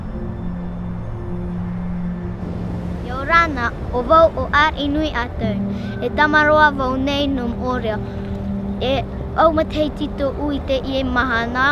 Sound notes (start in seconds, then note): 3.2 speaking in foreign language